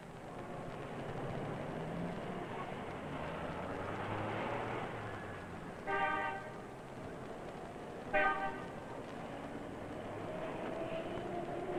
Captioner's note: city noises